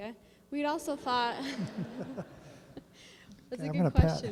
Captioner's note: laughter